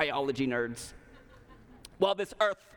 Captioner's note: laughter